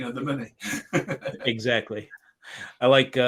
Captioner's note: laughing